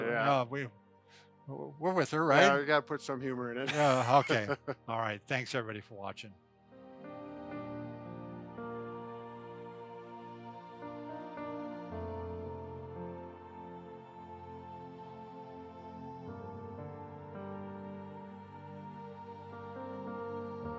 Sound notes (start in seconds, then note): 3.6 laughs; 11.1 serene music